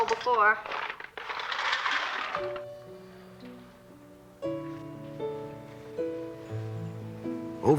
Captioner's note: sound of ice pouring out